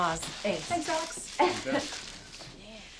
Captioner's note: chuckles